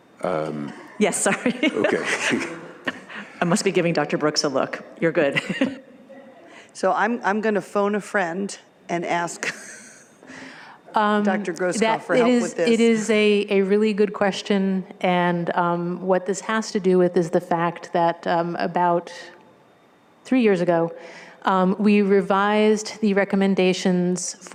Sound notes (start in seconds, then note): 1.1 laughs; 5.3 laughs